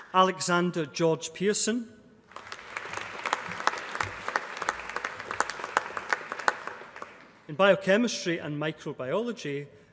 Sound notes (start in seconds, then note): 2.2 applause